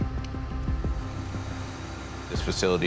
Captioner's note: whirring